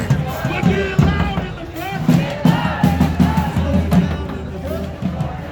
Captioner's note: protesters demonstrating